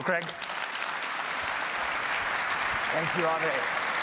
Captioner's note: applause